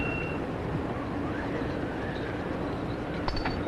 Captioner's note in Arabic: رنين الجرس